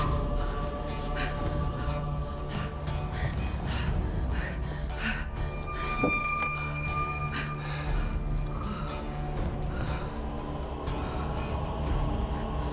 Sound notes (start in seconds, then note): 2.0 rapid breaths; 8.5 sigh